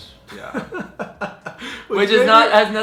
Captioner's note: chuckles